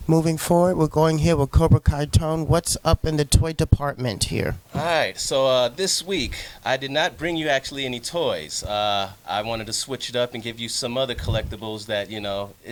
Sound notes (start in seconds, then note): none